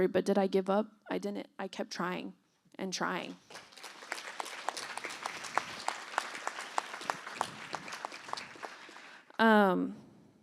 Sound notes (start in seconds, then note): 3.3 applause